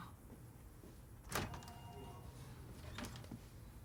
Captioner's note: door opens